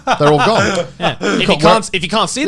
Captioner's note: Garnt laughing